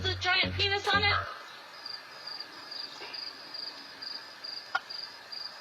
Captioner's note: crickets sound effect